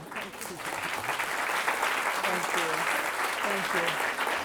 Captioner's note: students applauding